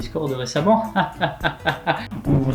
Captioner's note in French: rire constipé